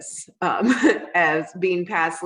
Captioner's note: chuckles